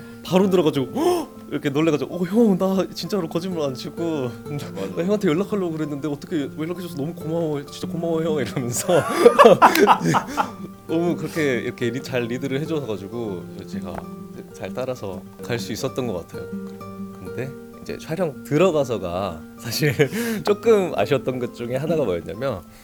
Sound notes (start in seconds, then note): 8.6 laughs